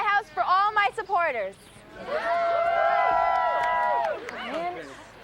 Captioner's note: crowd cheers